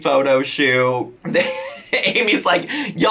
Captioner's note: laughs